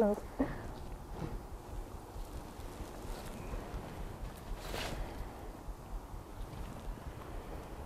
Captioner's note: wind in the background